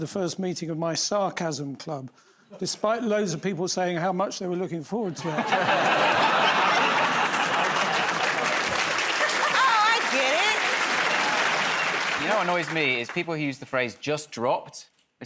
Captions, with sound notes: to the first meeting of my sarcasm club, despite loads of people saying how much they were looking forward to it. [ Laughter ] [ Applause ] -Oh, I get it. -You know what annoys me is people who use the phrase "just dropped."